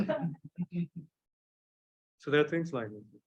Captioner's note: panelists laugh